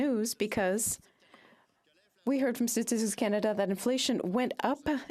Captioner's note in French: voix de l'interprète